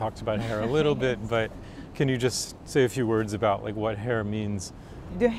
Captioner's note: laughs